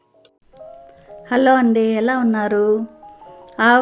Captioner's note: sweet Mom voice begins